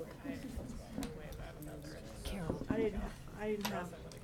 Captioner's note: people chattering